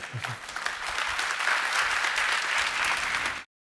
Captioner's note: applause